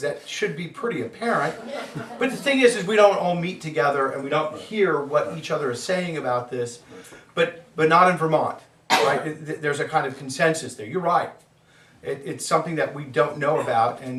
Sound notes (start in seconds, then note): 1.4 students laugh